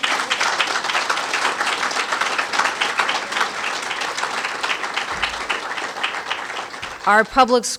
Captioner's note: applause